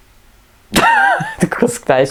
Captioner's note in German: lacht